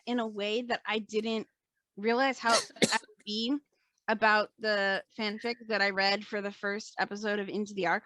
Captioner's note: coughs